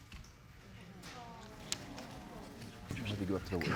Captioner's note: audience murmuring